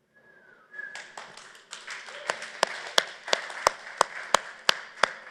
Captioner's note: applause